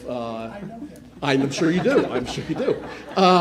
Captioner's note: laughing